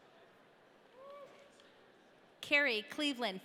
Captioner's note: audience cheering